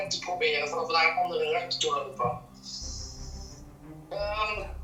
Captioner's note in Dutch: Er klinkt gebonk